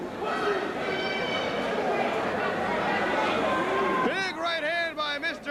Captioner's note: crowd chatter